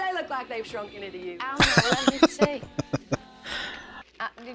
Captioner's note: laughing